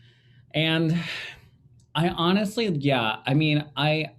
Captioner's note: sighing